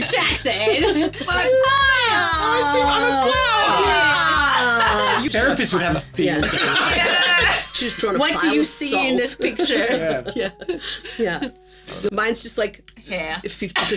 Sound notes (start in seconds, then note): 6.3 group laughing; 8.4 chimes tinkling